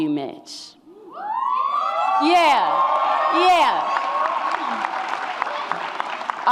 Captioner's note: audience cheers